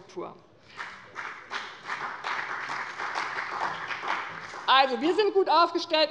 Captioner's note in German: Beifall bei dem BÜNDNIS 90/DIE GRÜNEN und der CDU